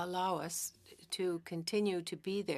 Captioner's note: speaking French